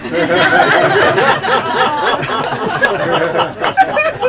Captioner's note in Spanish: Risas